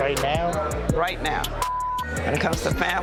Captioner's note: beep